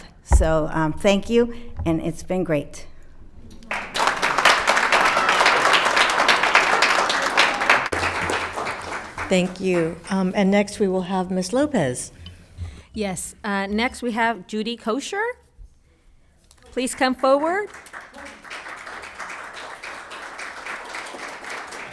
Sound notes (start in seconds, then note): 3.5 audience cheering; 18.5 audience applauding